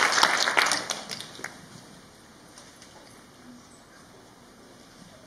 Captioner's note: A comfortable silence